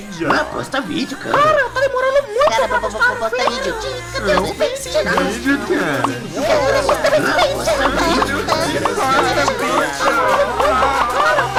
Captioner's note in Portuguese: muitas pessoas falando